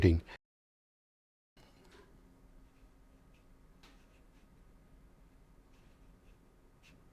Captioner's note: silence